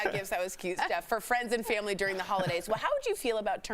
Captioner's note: laughter